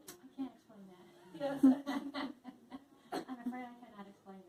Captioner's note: laughs